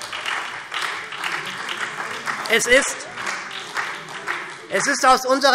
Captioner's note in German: Beifall SPD und Freie Demokraten